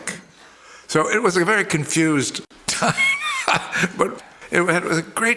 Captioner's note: laughs